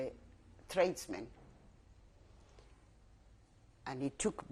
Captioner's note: pauses for 3 seconds